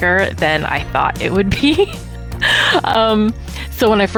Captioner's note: laughs